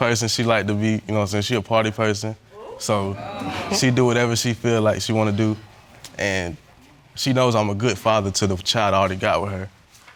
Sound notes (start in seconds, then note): 2.5 scoffs; 2.5 audience exclaims